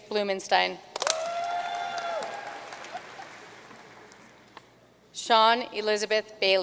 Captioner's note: audience cheering and applauding